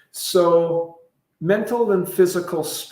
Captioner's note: none